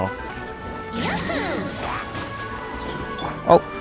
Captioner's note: Hilichurls and Abyss Mage growl; accidental robotic voice